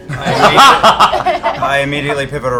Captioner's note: laughter